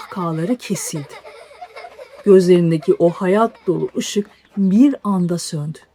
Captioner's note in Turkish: kahkaha